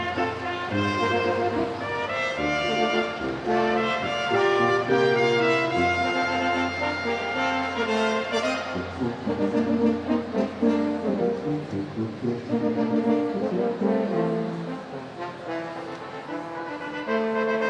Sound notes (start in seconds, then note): none